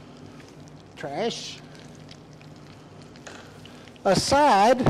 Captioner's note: skillet sizzling continues